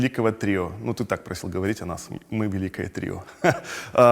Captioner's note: chuckles